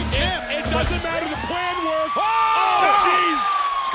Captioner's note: siren wails